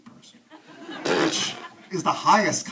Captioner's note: audience laughs